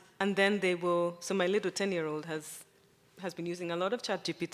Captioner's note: none